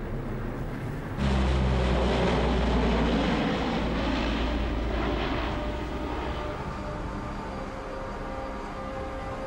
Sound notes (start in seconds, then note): 1.2 plane engine roaring; 4.5 brooding music